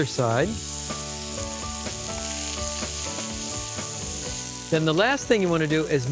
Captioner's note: sizzling